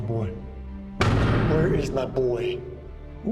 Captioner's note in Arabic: يطرق الباب